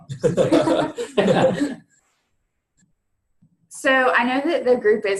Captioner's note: all laughing